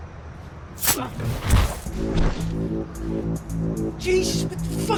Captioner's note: knife slicing